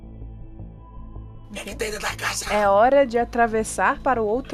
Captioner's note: whispering